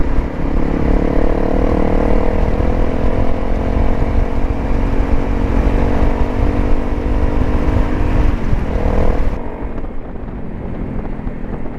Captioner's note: engines and wind